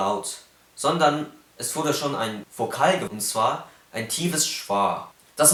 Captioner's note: deep schwa